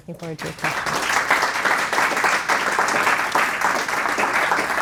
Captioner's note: audience applauds